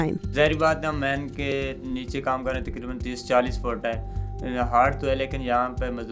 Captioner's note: speaks in a foreign language